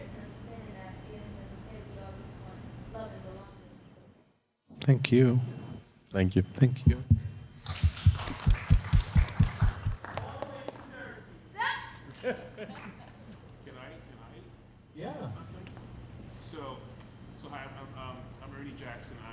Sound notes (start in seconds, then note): 7.5 audience clapping; 12.1 audience laughing